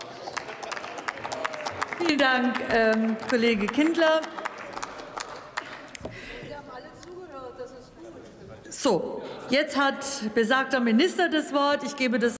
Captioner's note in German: Applaus